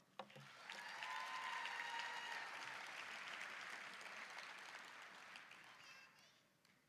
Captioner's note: applause, cheering